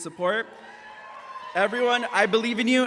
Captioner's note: audience applauds